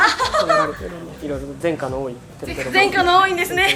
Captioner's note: laughs; laughs